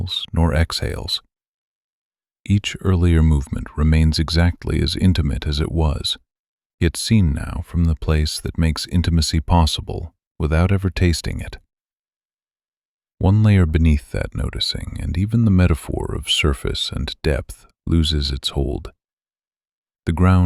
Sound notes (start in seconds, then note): 6.1 low voice